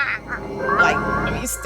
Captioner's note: groaning